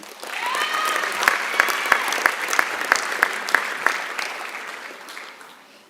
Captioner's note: applause